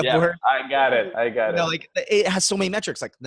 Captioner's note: laughing